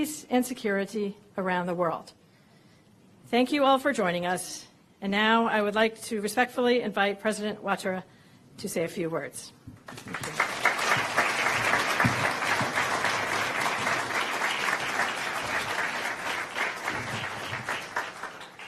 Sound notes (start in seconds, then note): 10.0 applause